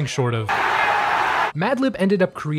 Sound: crowd cheering

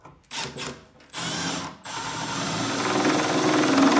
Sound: drilling screws

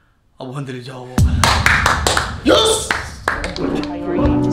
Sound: claps

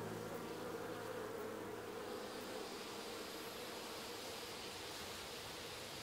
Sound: flies buzzing and grass blowing

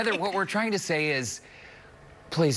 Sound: laughter

